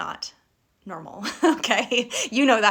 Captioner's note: laughing